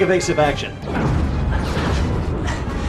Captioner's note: explosion